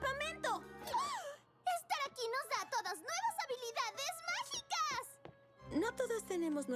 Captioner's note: gasp